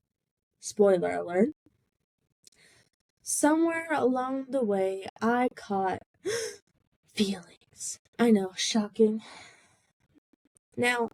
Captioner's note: gasp